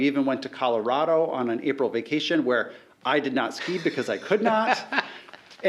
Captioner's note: laughing